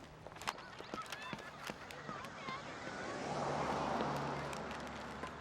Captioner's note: children muttering